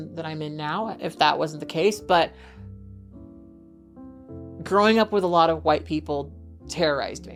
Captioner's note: none